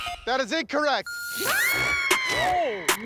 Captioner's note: screams